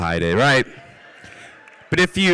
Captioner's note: cheers